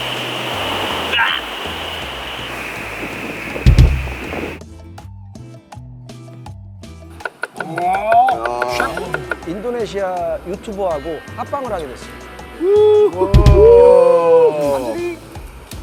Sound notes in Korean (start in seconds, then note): 1.0 절규; 7.6 감탄; 12.6 감탄